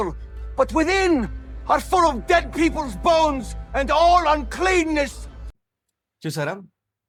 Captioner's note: continued reading of verse in English